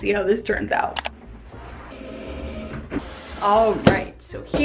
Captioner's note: mouse clicks